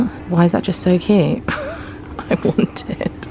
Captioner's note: laughing